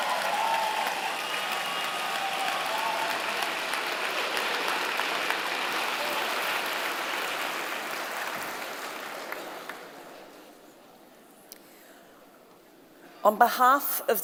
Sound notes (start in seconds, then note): 2.9 cheers and Applause